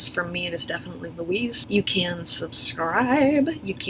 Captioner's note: none